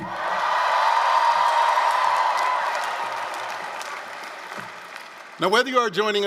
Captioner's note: applause, cheering